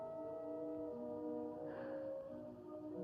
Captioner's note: sigh